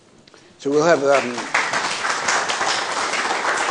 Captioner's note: applause